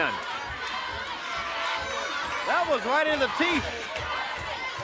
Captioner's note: crowd cheering